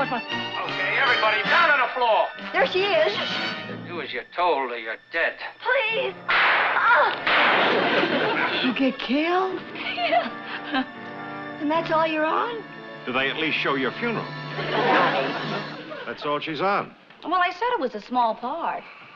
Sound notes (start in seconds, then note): 6.2 gunshots; 6.7 groaning